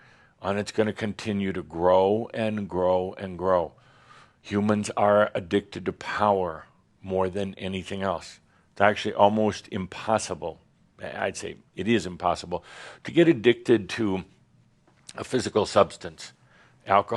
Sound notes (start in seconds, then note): none